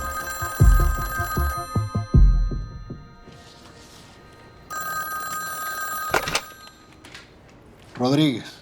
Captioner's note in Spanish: Suena el teléfono